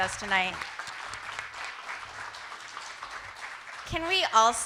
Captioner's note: audience applauding